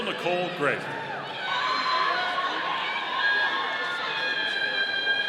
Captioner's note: audience cheering